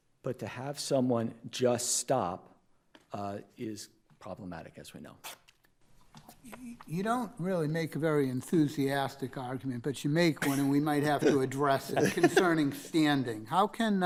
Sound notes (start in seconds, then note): 11.0 laughing